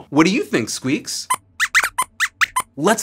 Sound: squeaks squeaks

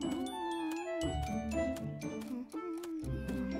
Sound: Pinkfong humming tune

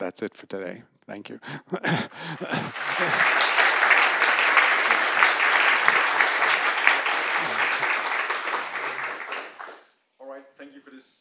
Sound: applause

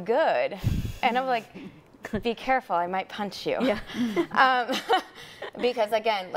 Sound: chuckles

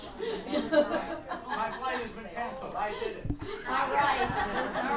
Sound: audience laughs; laughs; crowd laughs

